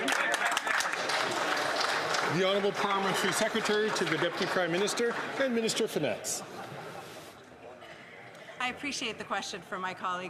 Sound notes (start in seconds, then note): 6.0 some Applause